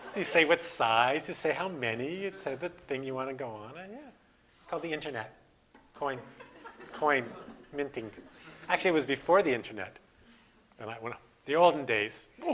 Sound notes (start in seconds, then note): 0.0 audience: Laughter; 6.3 audience: Laughter